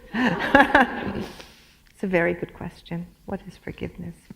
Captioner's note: chuckle